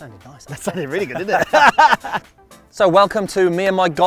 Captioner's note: laughs